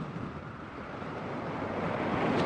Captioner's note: none